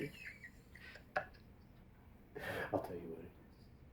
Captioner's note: wheezing laughter continues